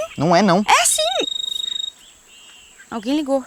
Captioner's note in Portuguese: Celular tocando